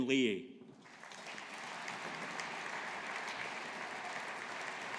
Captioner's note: audience applauding